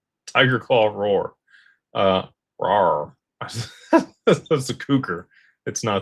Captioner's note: laughter